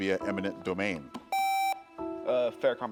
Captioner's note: buzzer beeps